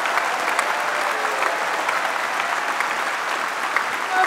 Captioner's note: applause